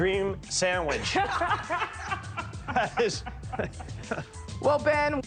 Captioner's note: all laugh